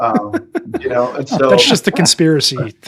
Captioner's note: laughing